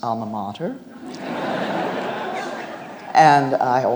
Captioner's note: audience laughs